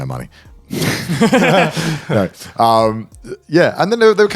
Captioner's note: all laughing